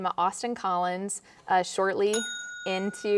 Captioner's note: bell dings